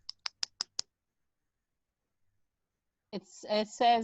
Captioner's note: keyboard typing